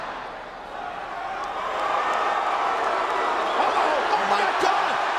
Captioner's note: crowd cheering and booing